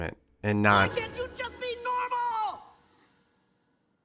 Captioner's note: dad, screaming